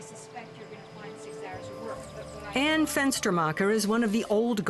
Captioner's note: indistinct chatter